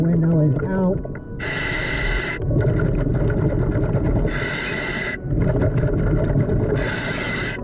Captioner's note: gentle music continues; mouthpiece hissing